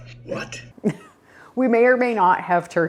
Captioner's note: chuckles